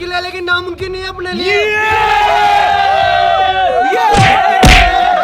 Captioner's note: screaming